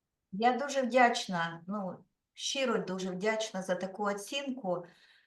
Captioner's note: speaking Ukrainian